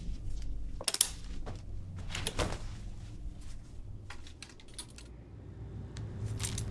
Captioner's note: clothes rustling; hangers rattling